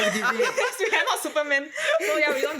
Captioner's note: laughs